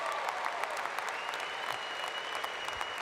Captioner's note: appluase